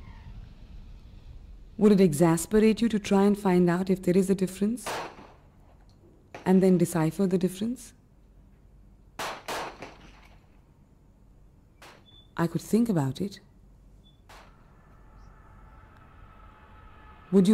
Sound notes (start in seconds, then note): 2.6 guns blowing; 6.8 guns blowing; 11.4 airplane engine roaring